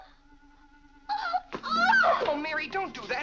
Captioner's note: Mary cries